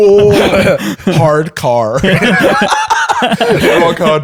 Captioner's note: laughter